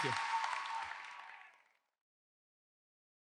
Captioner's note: everyone applauds